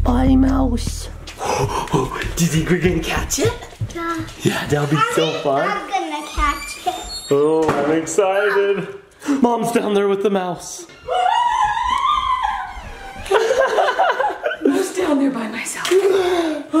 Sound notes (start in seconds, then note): 11.0 screaming